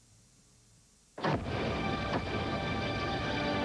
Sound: sound of stadium lights turned on

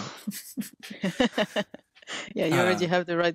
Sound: laughing

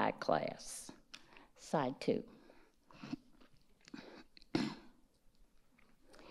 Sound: clears throat

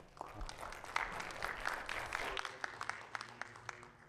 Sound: audience applauding

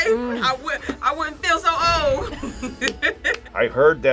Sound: laughs

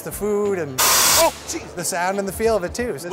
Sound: loud blast of air

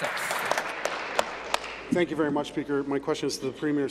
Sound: applause

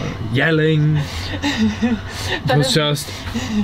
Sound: laughs

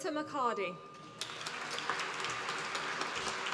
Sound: applause

